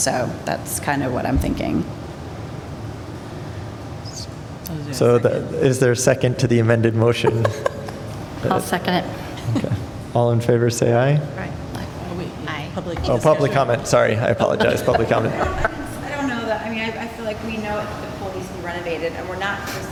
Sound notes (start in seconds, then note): 7.1 laughter; 14.2 laughter